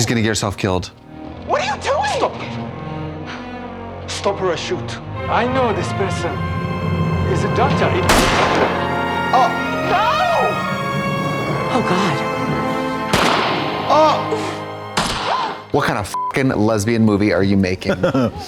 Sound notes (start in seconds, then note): 8.1 gun banging; 13.1 gun shooting; 16.1 beep